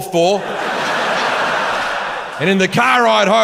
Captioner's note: audience laughs